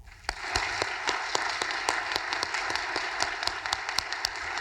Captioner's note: audience applauding